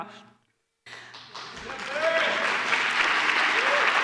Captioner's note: applause